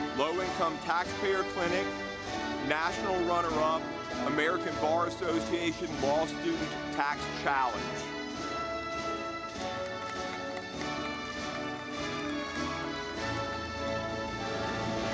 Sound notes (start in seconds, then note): 7.2 audience clapping